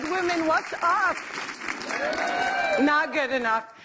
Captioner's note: cheers